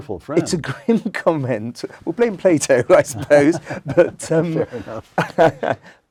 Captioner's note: laugh